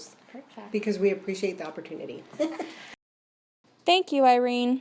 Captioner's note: giggles